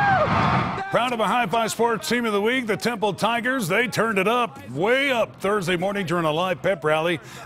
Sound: cheers and applause

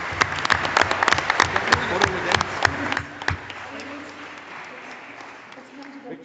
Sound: audience and board members applauding

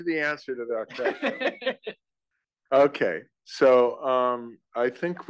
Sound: laugh

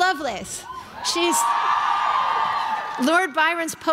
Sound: crowd cheering

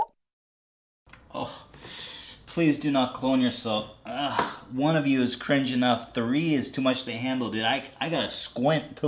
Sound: wincing

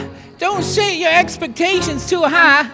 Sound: none

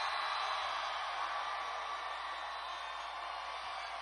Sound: cheers

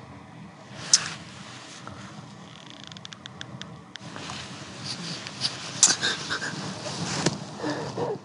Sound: cries

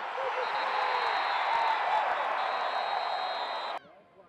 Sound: cheering

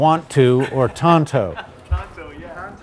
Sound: man laughs

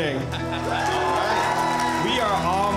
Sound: people cheering

